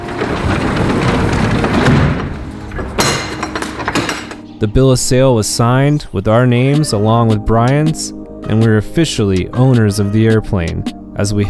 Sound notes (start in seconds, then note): 0.0 shutters lowering; 3.0 clanking